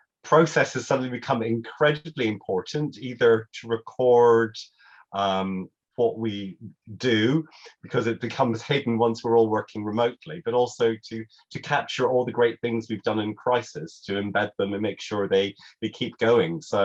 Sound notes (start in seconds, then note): none